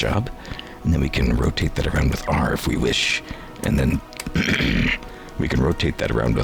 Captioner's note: clear throat